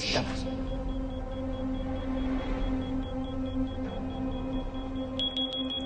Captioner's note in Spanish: Pitidos